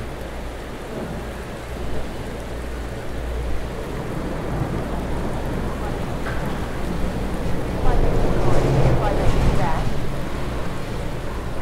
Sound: wind

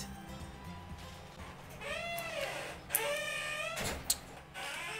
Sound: door creaking

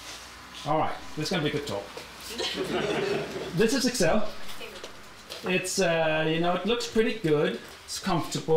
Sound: laughter

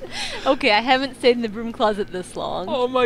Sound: laughs

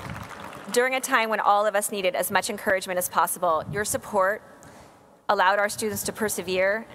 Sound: applause

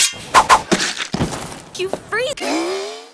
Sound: unsheathing sound; stabbing sound

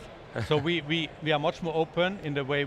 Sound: chuckles

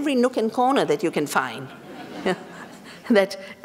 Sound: laughter

